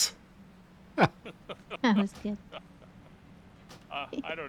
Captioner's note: laughs